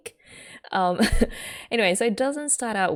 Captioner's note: laughs